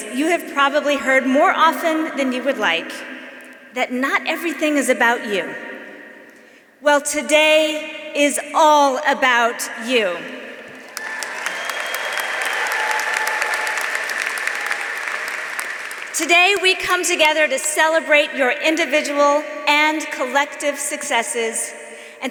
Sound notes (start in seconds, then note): 10.8 audience applauding; 10.8 audience cheering